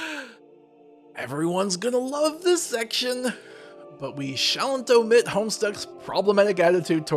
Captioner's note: deep breath